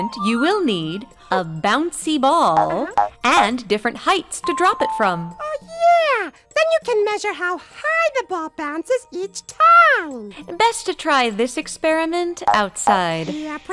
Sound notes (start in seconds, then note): 0.8 playful music; 2.6 ball boinging